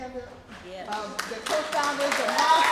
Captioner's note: applause